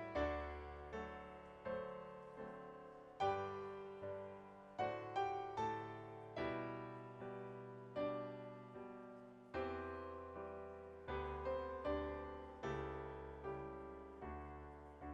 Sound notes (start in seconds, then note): none